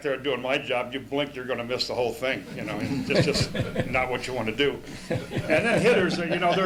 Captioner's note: laughter